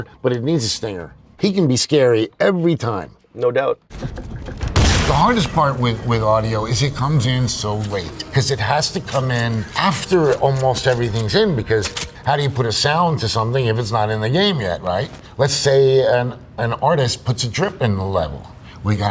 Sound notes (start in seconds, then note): 3.9 gunshot